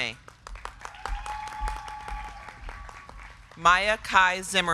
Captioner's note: crowd clapping; crowd cheering